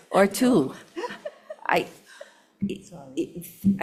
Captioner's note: committee laughs